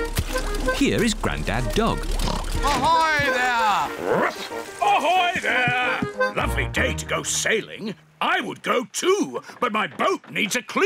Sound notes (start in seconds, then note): 1.4 oinks; 3.5 barks